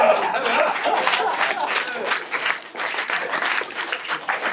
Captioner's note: audience applauding